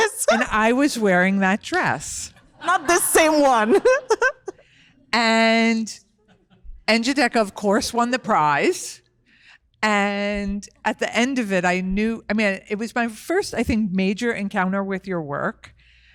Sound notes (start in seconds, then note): 3.6 chuckles